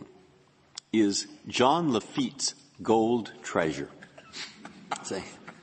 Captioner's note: laughter